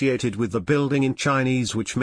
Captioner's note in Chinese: 中文